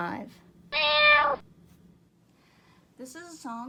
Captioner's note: cat meowing